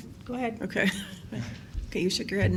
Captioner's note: laughing